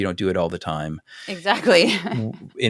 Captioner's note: laugh